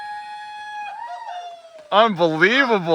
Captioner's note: yelling